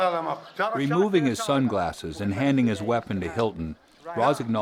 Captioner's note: voiceover